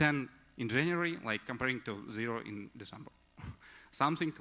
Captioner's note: chuckles